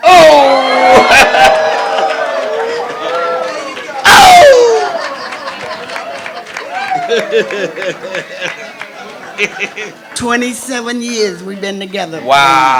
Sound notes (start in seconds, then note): 1.5 crowd oohs; 6.1 laughs